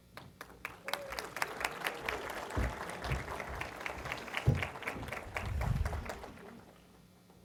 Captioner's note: applause